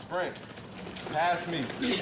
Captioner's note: heavy footsteps quickens